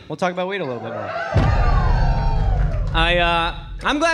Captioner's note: audience cheering